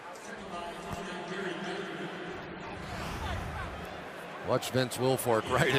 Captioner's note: pa announcement